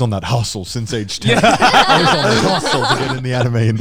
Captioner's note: everyone laughing